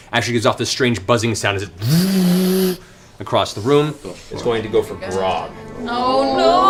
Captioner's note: vrrrrr